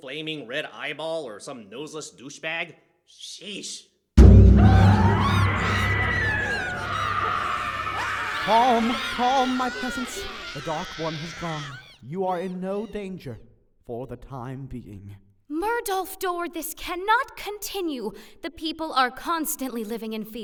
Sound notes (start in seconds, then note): 4.4 Musilasians screaming